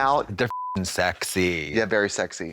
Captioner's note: beep